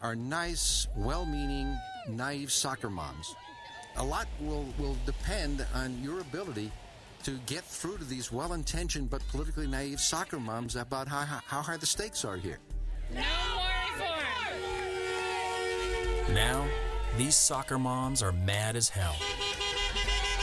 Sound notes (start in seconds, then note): 15.7 car horn